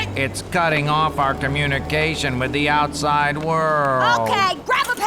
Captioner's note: whines